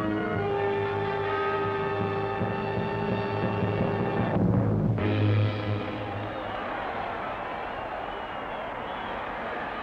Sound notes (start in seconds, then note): 5.1 crowd cheering